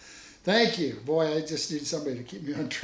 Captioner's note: laughing